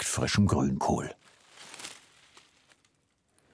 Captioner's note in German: Rascheln